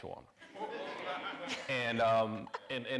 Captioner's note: audience laughing